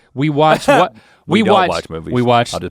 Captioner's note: Rhett scoffs